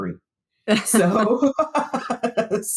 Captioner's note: laughs